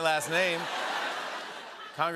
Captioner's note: laughter